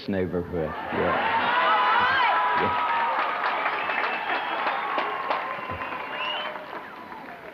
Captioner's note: cheers